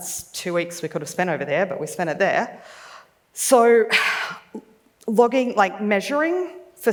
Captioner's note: sighs